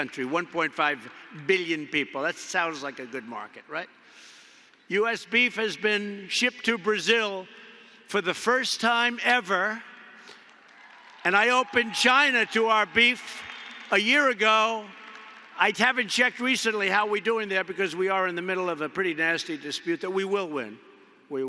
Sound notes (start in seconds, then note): 10.2 applause